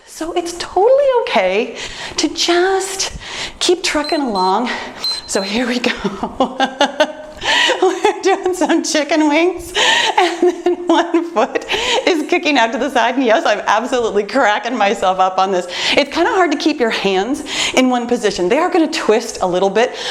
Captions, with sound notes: so it's totally okay to just keep trucking along. (timer beeps) So here we go (laughs). We're doing some chicken wings and then one foot is kicking out to the side. Yes, I'm absolutely cracking myself up on this. It's kind of hard to keep your hands in one position. They are going to twist a little bit,